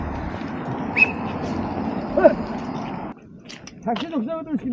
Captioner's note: A man who calls someone by whistling + cheering